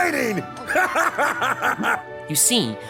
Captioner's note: laughing